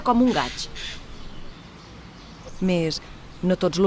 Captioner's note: sound of a jaybird